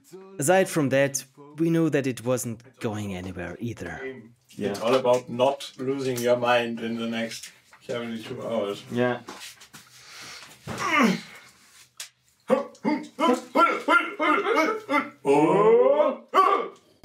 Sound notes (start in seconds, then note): 10.7 grunts; 12.4 rhythmic grunting